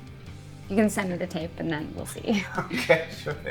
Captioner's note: chuckles